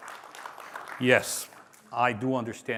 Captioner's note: applause